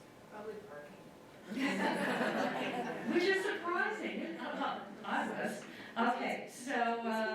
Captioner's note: audience laughter